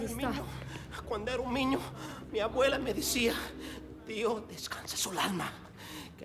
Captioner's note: man speaks foreign language